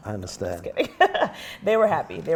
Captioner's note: chuckles